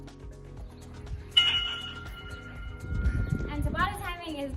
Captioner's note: bell rings